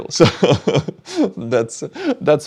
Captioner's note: laughs